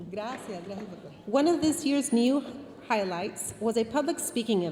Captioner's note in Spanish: hablando en inglés